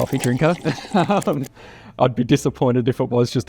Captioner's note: drinker slurping; laughing